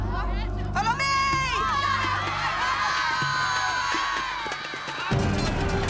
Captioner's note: all yelling